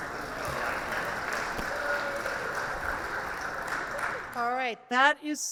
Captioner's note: audience applauding